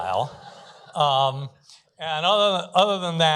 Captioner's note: laughter